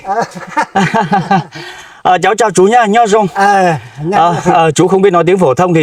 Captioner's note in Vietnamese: tiếng cười